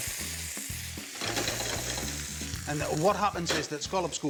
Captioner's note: pan clanging